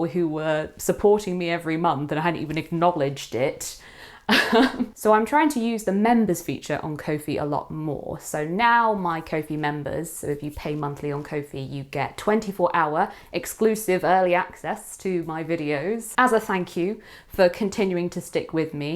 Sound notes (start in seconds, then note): 4.0 laughs